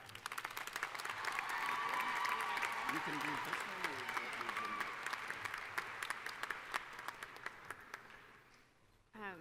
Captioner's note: applause